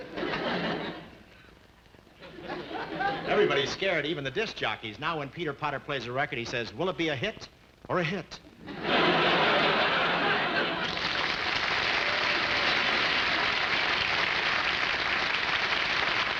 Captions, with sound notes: (audience laughing) Every body is scared even the disc jockeys. Now when Peter Potter plays a record he says, "will it be a hit or a hit?" (audience laughing) (audience applauding)